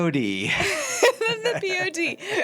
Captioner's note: laughing